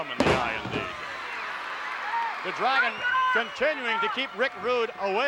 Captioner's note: applause